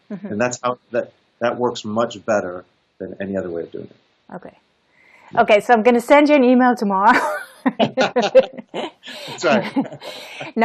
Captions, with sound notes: That works much better than any other way of doing it. I'm going to send you an email tomorrow. [laughter] It's all right.